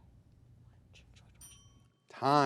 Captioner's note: bell ringing